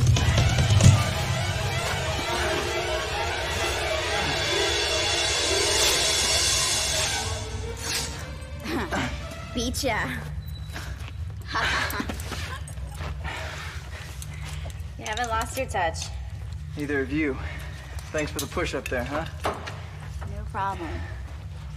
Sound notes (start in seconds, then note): 0.1 suspenseful music; 8.6 both grunt; 11.4 Sara laughs